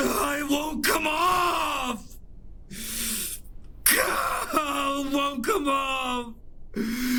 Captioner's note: Pete sobs; sobs